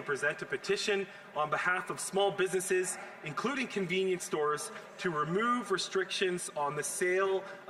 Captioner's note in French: voix de l'interprète